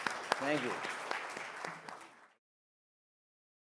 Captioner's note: all clapping